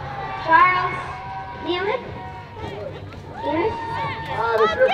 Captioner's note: applause